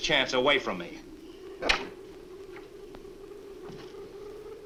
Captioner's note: door closes